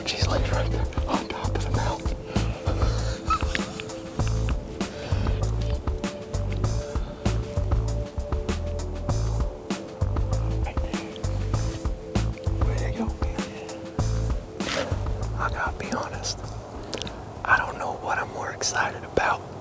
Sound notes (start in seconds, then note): 11.2 whispering; 15.6 whispering